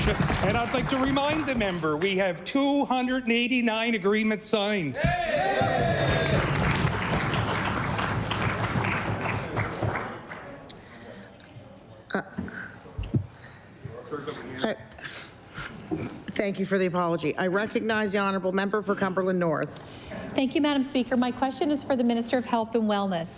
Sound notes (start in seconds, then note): 8.0 applause